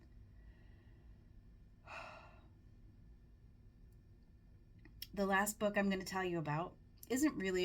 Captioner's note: heavy sigh